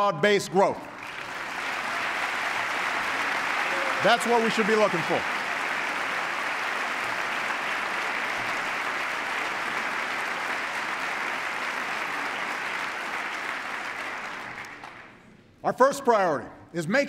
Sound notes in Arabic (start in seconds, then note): 0.7 تصفيق; 13.2 تصفيق